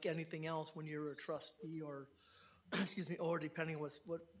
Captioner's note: coughs